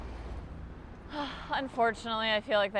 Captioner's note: sighs